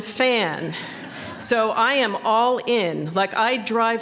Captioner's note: laughter